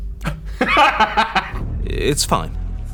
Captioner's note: laughing